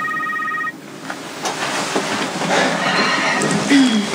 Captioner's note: cell phone rings